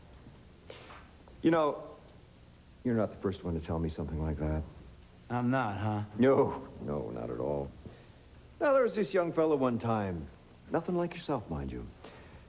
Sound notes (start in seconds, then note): none